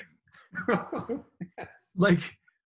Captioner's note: laughing